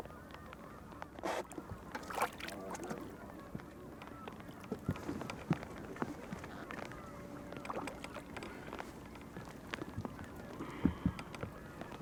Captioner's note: fish splashing; rain pattering